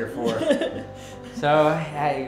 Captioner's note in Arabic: يضحك